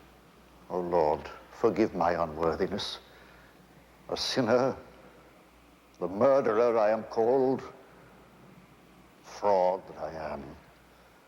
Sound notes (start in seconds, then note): none